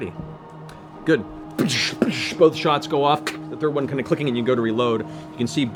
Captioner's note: gun firing twice; click